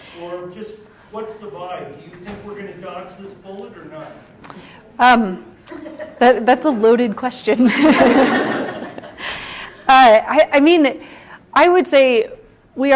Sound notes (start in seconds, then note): 5.2 scattered laughs; 7.6 laughter